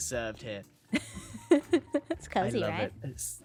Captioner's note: laughs